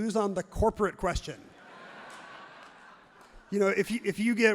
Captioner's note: crowd laughs loudly